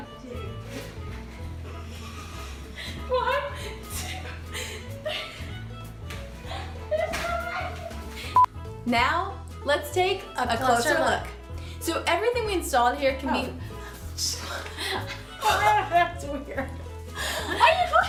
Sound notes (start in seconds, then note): 2.8 laughter